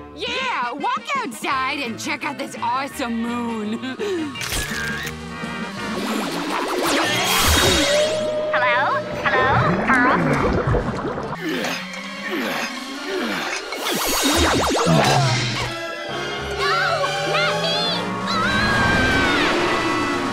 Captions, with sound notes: Yeah, walk outside and check out this awesome moon. [camera flashing] Hello? Hello, Pearl? [grunting] No! Not me! [screaming]